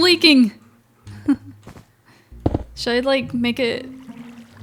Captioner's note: laughs